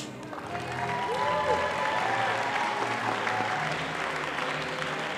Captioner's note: audience applauding